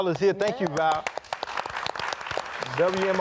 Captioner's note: audience clapping